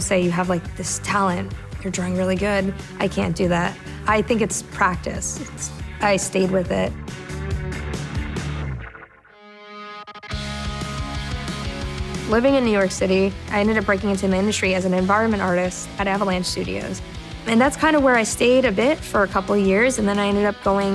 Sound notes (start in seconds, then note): none